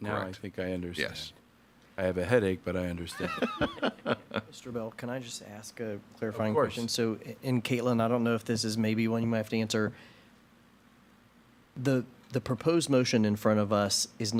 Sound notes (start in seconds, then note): 3.1 laughing